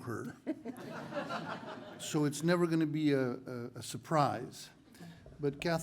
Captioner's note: laugh